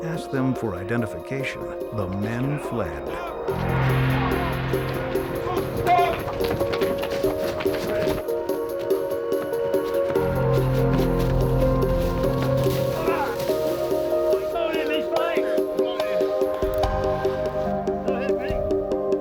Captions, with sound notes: When the police asked them for identification, the men fled. (shouting) (suspenseful music)